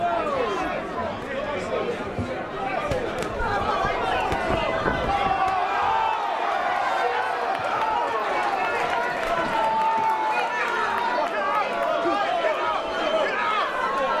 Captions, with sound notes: - [Crowd] Oh! (cheering and clapping) - One, two, three, - Get up!